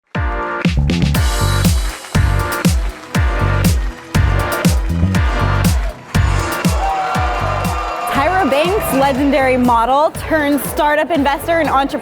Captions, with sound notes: (upbeat techno music) (cheers) - Tyra Banks, legendary model turned startup investor